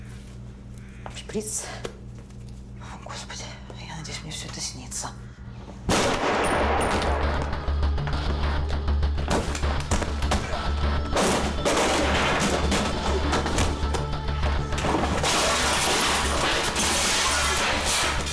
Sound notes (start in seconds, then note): 5.8 eerie music; 5.9 gunshot